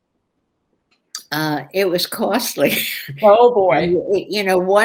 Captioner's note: laughs